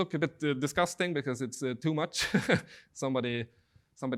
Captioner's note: laughing